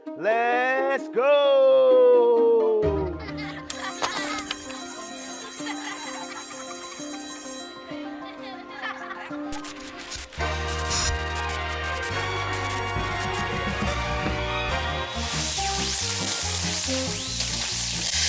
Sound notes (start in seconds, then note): 3.0 kids laughing; 3.8 school bell ringing; 9.5 static buzzing; 12.8 upbeat music